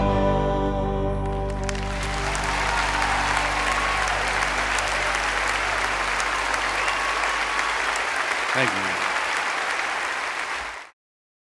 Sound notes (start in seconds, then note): 2.7 cheers and applause